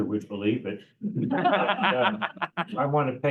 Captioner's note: laughter